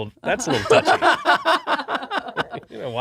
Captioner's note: laughing